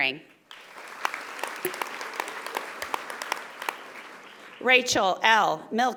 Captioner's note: audience applauding